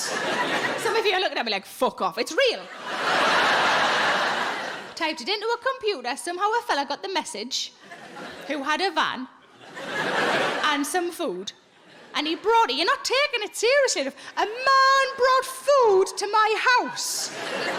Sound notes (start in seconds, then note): 2.6 audience laughing